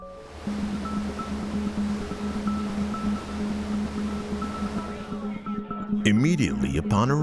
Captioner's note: waves flowing